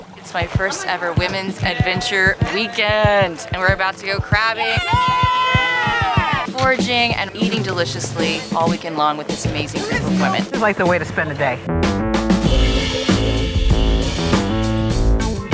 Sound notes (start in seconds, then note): 4.6 cheering; 12.4 upbeat funk music